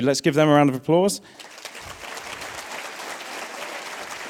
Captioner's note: applause